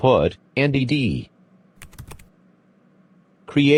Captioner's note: typing